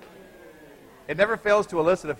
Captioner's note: students cheering